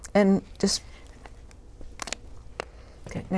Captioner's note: scissor cutting